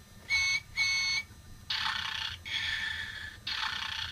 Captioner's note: snoring